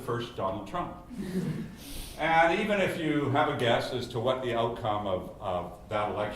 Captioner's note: laugh